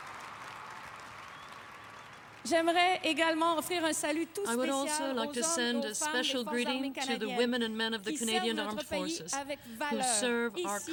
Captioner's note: applause